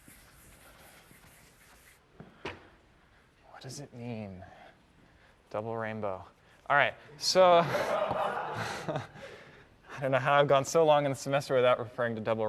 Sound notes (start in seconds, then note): 7.6 laughter